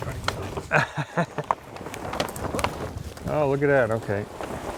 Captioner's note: laughter